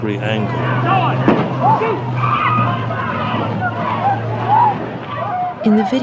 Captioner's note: audio from the march of frenetic activity